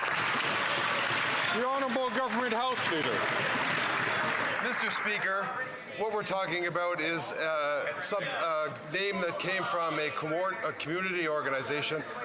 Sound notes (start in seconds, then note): 2.9 some Applause